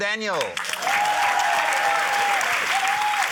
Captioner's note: cheering, applause